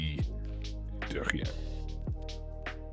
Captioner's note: speaking in foreign language